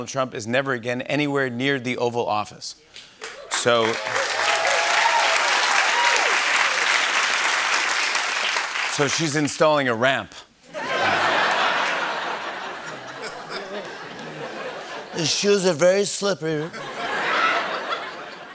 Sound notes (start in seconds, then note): 3.3 cheers and applause; 10.7 laughter; 16.6 laughter